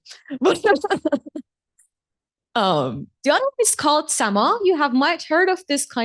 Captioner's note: chuckles